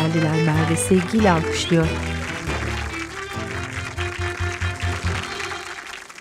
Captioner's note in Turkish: Alkış sesleri